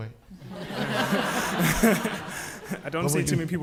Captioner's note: audience laughing